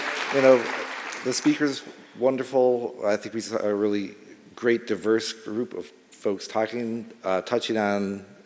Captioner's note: applause